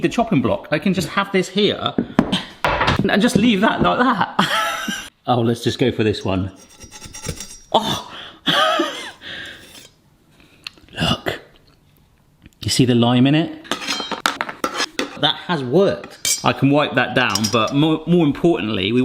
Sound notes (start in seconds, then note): 6.1 metal scraping; 8.5 laughing; 14.2 chocolate discs clanking